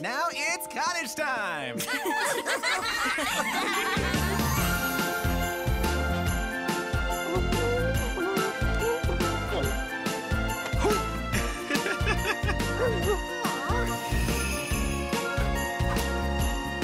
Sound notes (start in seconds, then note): 1.8 laughing; 5.4 upbeat music; 11.3 laughing